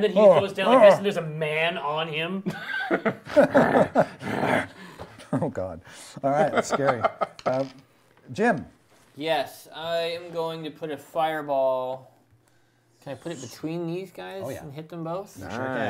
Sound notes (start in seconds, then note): 3.5 growling